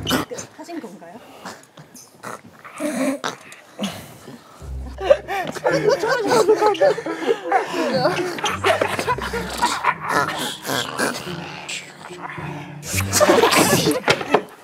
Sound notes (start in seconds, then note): 3.0 in zombie language; 4.6 laughter continues